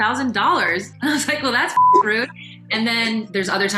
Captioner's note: beep